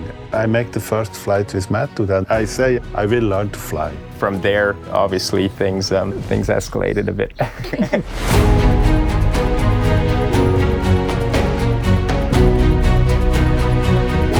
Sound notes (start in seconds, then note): 7.3 laughter